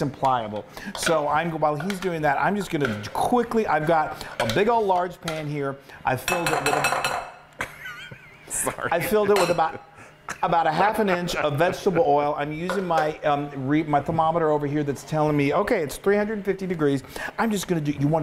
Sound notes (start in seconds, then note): 6.2 spoon clanking; 7.6 laughing